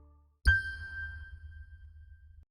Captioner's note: ding